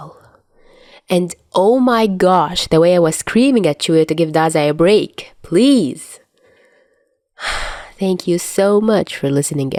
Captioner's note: sigh